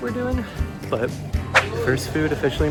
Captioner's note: woosh